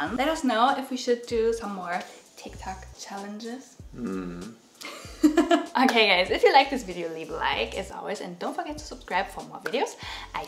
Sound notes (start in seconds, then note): 4.5 laughs